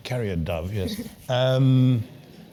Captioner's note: laugh